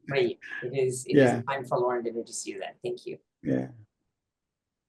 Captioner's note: laughs